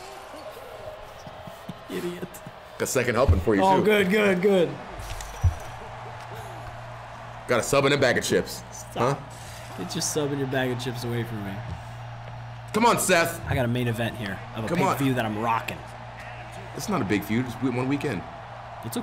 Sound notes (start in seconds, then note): 2.3 laugh